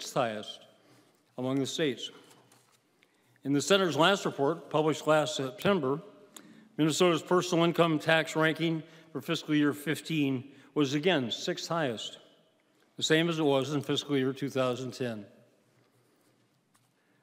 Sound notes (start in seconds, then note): none